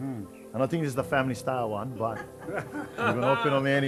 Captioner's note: laughter